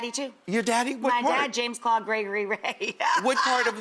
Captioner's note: laughs